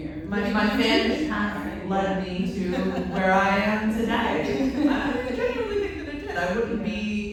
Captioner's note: laughter